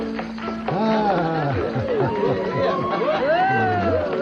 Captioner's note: cheering